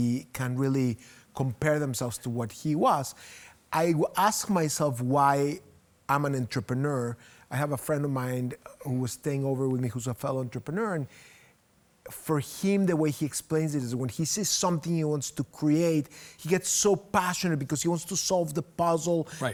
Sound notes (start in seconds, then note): none